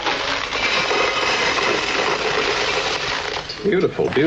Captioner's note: gravel smashes into tin can loudly